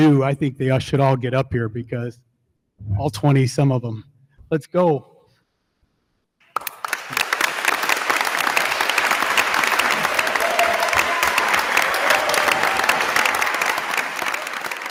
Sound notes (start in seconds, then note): 6.4 attendees applauding; 6.6 attendees cheering